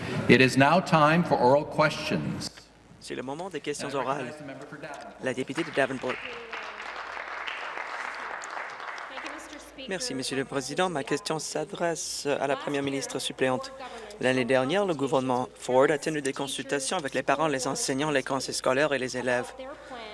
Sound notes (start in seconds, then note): 9.1 applause